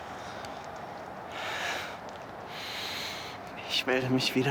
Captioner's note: Jan breathing